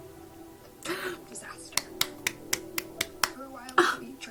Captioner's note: gasp; clapping for steve harrington